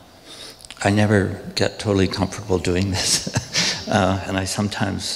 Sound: laughs

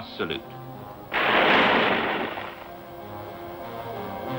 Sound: guns booming

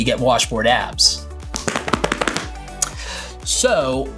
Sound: abs rumbles

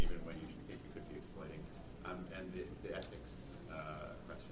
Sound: voiceover

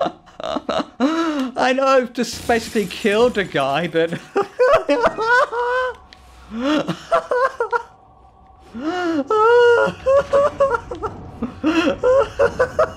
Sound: laughs harder

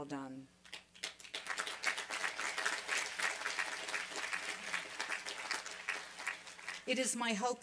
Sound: applause

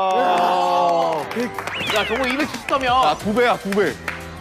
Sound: applause

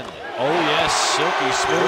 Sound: crowd cheering

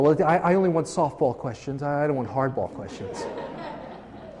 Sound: laughing

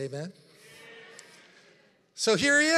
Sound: congregation chattering

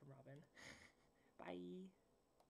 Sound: laughs

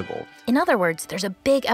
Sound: voiceover

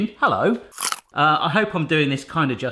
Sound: crunching

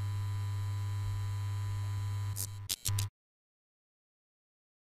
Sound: neon humming

